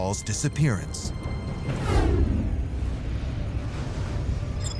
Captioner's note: deep rumble